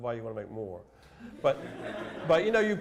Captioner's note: laughter